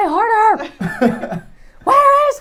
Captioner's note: laughing